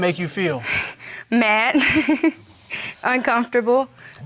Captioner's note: laughs